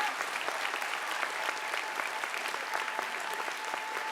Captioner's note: applause